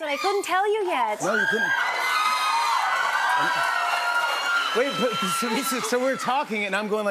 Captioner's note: cheers and applause